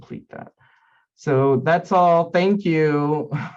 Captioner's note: laughing